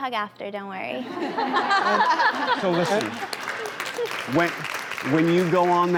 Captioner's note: laughter and applause